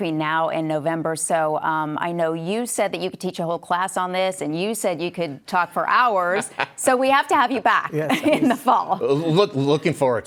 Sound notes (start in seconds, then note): 6.2 laughing